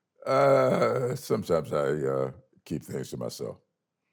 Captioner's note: laughs